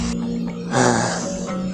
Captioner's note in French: Soupir